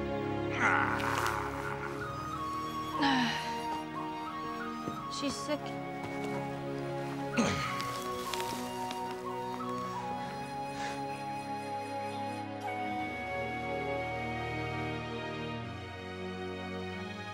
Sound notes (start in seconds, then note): 0.5 grunt; 7.4 grunt